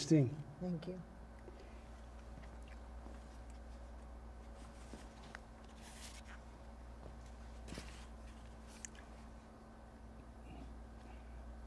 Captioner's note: pauses 11 seconds